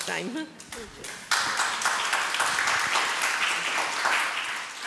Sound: audience applauds

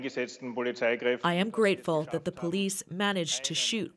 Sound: speaking foreign language

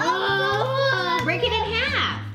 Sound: defeated sighing

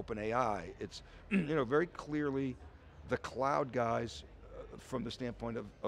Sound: coughs

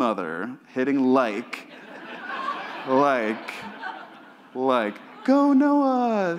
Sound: audience laughs

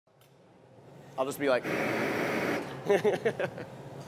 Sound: laugher

